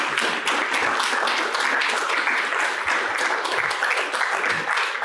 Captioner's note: applause